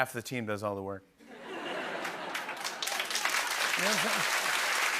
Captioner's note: laughter and applause